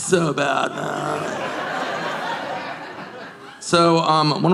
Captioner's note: audience laughing